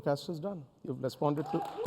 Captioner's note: applause